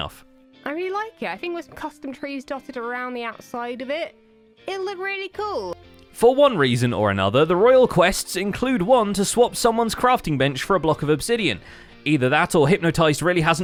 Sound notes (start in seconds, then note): none